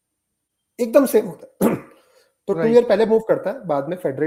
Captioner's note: sound of clearing throat